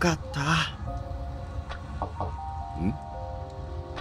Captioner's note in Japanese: ノック音：コンコン